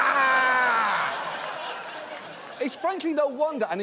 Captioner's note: audience laughing